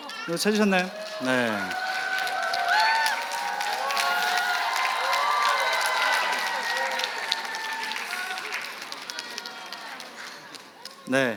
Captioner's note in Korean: 좌석에서 시음권을 발견한 관객들의 박수와 환호